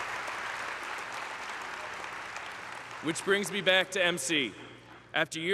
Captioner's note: applause